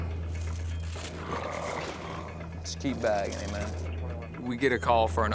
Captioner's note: gurgling